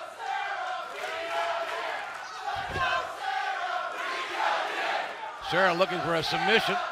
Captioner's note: fans chanting